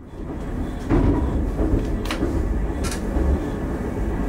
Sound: train engine roaring

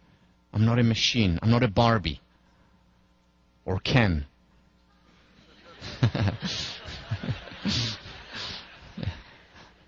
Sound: laugh

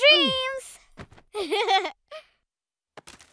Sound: laughing

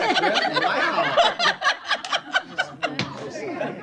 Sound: laughter

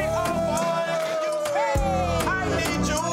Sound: cheering

